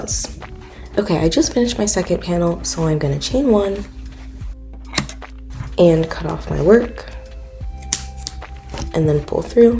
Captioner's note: scissor cuts